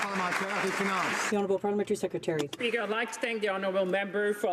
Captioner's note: some Applause